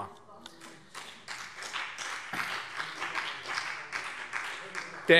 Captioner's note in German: Beifall CDU und BÜNDNIS 90/DIE GRÜNEN